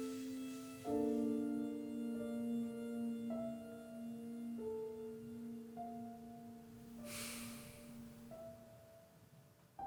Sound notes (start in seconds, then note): 7.0 Quinn sighs